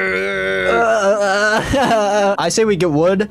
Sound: groans

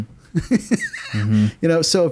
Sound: laughs

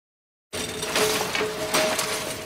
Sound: noise of shopping trolley on road

